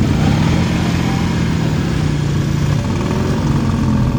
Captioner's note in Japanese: バイクの音